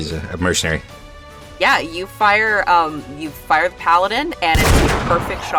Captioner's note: gunshot